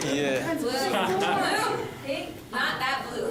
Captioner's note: laughter